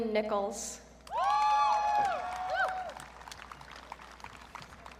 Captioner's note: audience cheering